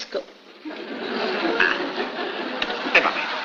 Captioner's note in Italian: risate